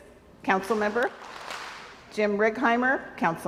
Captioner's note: crowd applauds